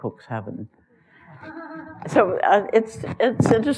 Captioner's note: laughter